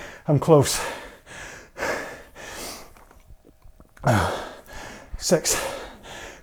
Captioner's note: breathing heavily